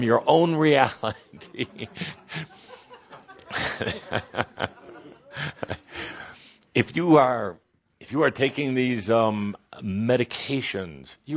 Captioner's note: some laughter and Kuthumi chuckling